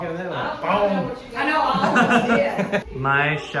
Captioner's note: laughter